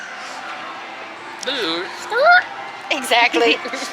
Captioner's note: rewinding noise attempt; giggles